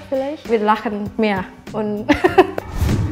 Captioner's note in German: Lachen